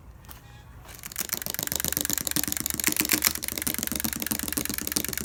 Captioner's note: loud rattling